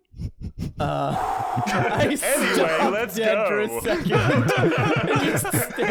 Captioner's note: exhale